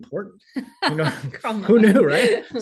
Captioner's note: laughing